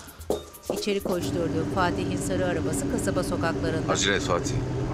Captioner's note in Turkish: Araba sesi